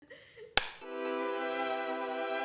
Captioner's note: slate clap; intro music